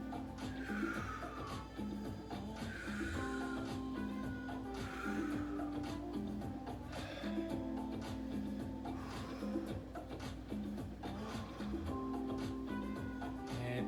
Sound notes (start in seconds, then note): 0.2 breaths; 0.2 upbeat music; 2.4 breaths; 2.4 upbeat music; 4.6 breaths; 4.6 upbeat music; 9.3 breaths; 9.3 upbeat music